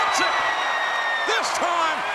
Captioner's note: audience cheering